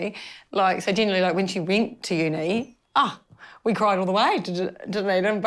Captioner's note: none